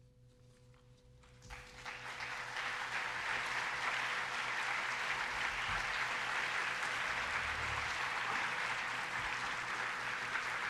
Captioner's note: applause